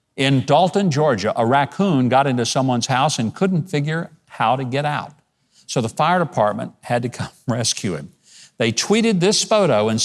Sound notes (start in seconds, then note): none